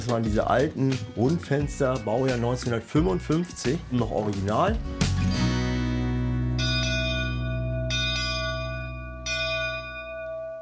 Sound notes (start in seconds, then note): 6.5 ship's bell rings